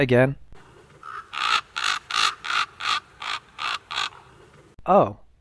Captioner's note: raven cawing